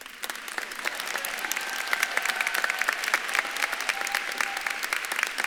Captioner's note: audience laughs; audience claps and cheers